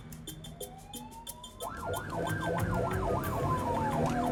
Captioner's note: sirens wailing